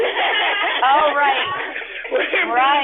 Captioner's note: laughter